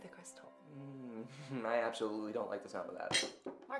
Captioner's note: grunting; clanking